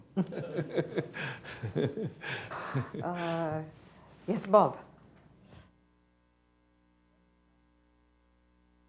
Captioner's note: laughter